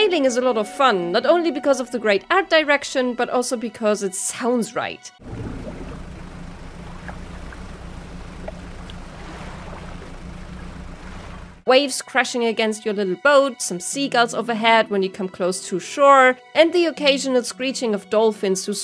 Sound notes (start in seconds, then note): 5.2 sounds of sailing on an ocean